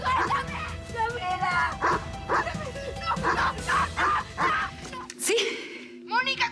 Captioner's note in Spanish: ladridos